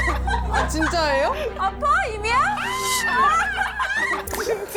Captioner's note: screams in response